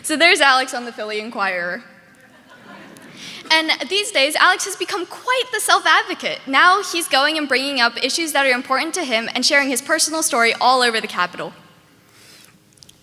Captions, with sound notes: So there's Alex on the Philly Inquirer. (audience laughing) And these days, Alex has become quite the self-advocate. Now he's going and bringing up issues that are important to him and sharing his personal story all over The capitol.